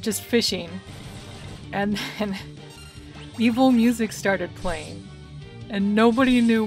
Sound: laughing

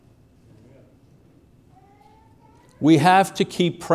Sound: man saying Amen

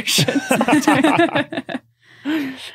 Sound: group laughing

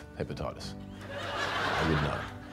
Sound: laughter

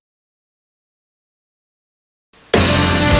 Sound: silence

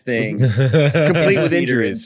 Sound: laughs

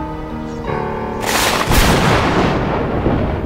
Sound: thunder strike

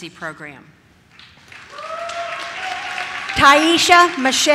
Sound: audience cheers

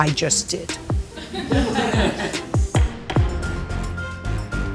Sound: people laugh

